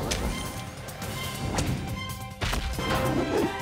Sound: bounces

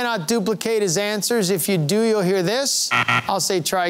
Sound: buzzer sounding

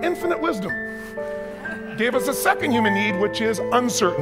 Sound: audience chuckles

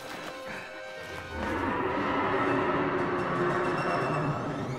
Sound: roaring; yelling

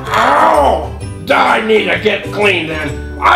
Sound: growling

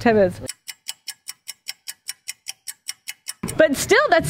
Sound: clock ticking

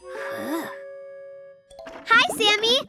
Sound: Sparky sighs

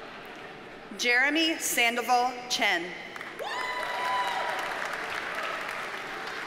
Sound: audience cheers and applauds

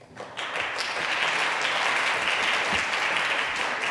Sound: audience applauding

